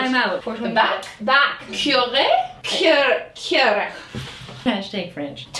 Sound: speaks bad French

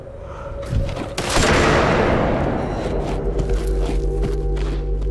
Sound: gunshot blaring

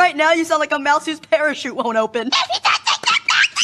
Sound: silently laughs

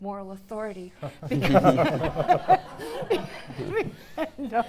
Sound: audience laughing

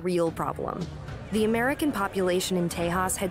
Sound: crowd of people talking

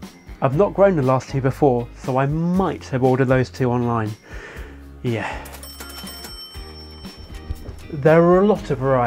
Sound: sigh

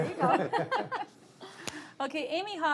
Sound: all laugh

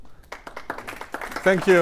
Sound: audience applauds

